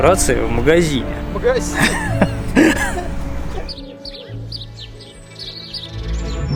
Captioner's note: laughs